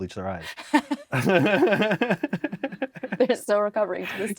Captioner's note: both laugh